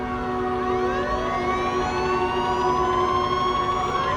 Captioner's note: siren wailing